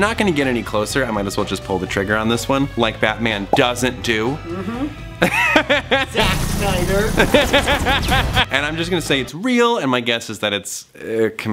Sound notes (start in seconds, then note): 7.1 laughs